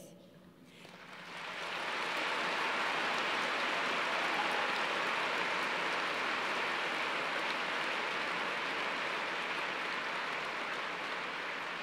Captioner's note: applause